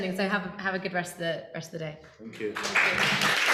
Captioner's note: audience clapping